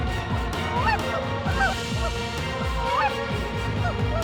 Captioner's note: goose calls